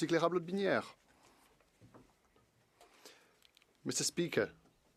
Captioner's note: speaking French